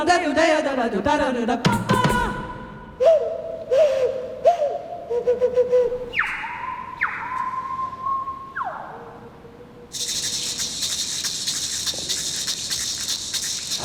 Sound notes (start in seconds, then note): 3.4 imitating bird calls